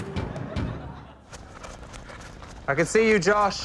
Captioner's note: energetic music plays; music stop, footsteps patter